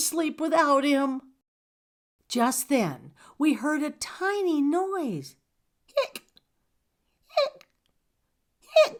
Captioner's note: hiccup